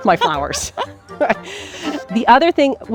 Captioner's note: both laughing